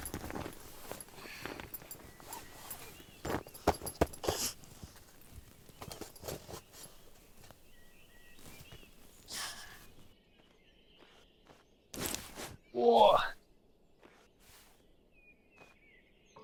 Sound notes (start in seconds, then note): 8.0 birds chirping; 12.9 Jim groaning